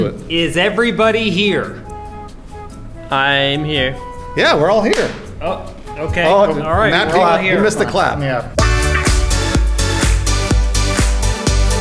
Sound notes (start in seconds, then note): 4.9 claps